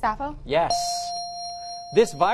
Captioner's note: bell dings